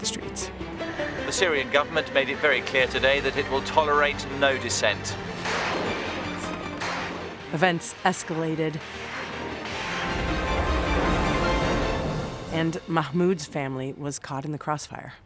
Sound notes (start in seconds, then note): 5.4 guns firing; 9.7 explosion echoes